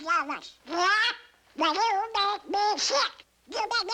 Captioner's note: in donald's voice